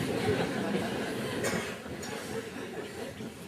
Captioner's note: laughter